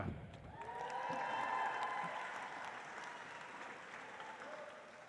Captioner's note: audience applauds